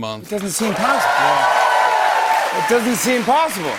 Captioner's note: cheers and applause